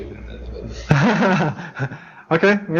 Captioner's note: laughs